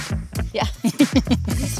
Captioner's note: laughing